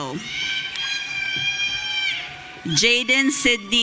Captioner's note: audience cheering